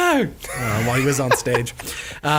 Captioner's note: laughing